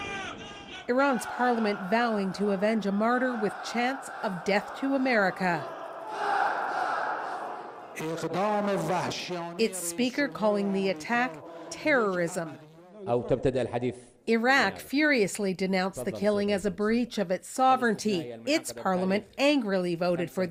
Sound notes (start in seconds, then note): 7.2 chants; 14.1 speaking foreign language